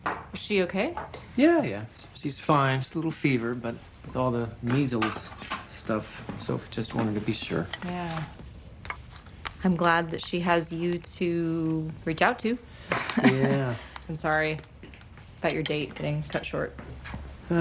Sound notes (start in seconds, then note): 13.0 chuckles